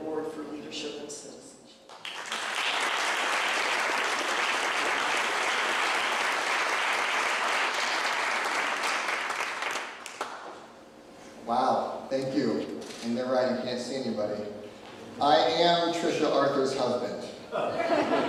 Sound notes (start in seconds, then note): 1.9 clapping